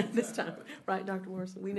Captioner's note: laughter